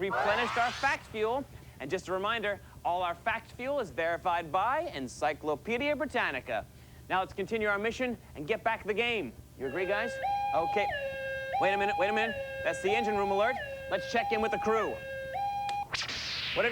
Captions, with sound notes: WE'VE REPLENISHED OUR FACT FUEL. OUR FACT FUEL IS VERIFIED BY ENCYCLOPAEDIA BRITANNICA. LET'S CONTINUE OUR MISSION AND GET BACK THE GAME. ( siren ) THAT'S THE ENGINE ROOM ALERT. LET'S CHECK IN WITH THE CREW.